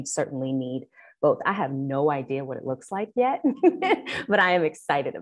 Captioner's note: chuckling